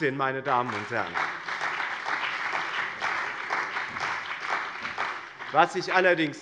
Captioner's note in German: Lebhafter Beifall bei dem BÜNDNIS 90/DIE GRÜNEN und der CDU